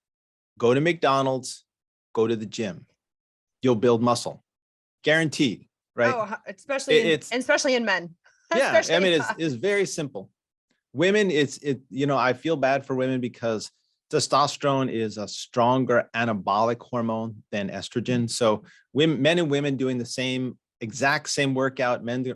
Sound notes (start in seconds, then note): 7.5 chuckles